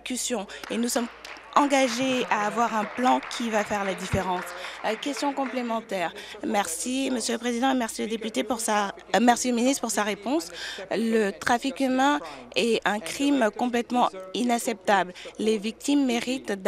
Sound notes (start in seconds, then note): 4.6 applause